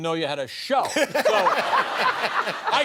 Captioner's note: laughter